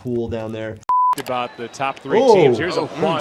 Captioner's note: beep